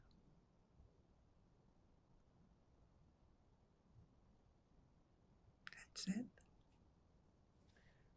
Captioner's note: pauses 6 seconds